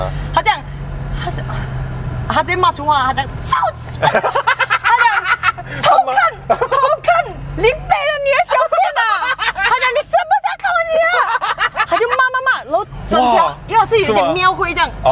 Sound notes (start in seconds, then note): 3.4 cursing